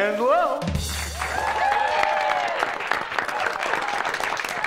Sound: audience applause

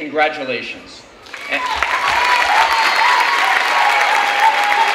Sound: clapping and cheering

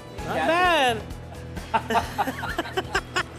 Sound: laughing

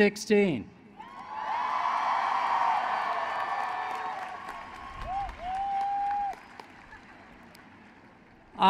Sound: applause

